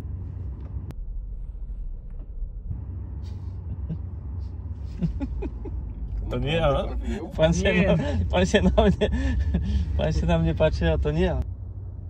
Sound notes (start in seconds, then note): 4.8 laughs